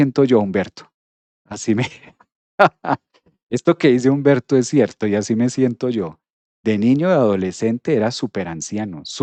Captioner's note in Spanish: risas